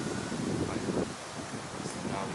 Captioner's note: leaves rustling